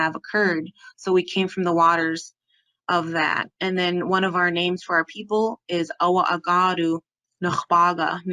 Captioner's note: speaking Hidatsa